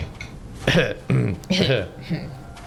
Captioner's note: grunting